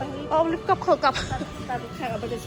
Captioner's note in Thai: หัวเราะ